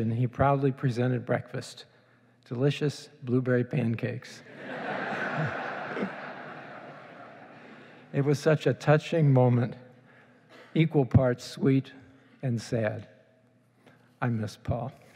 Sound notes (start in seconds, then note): 4.6 laughing